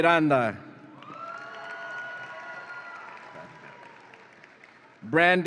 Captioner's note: audience applauds and cheers